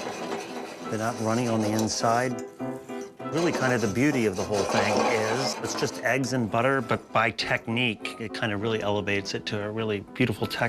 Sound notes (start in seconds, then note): none